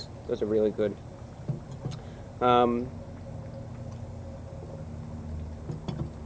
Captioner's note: dignified sipping